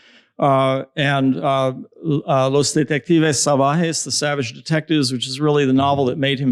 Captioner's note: spanish